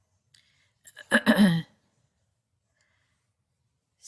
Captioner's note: coughing